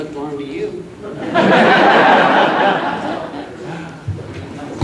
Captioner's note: audience laughs